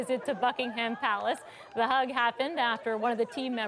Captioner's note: laughter